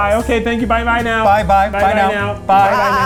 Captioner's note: in Unison